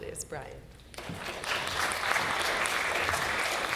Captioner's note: applause